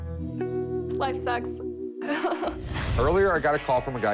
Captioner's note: laughs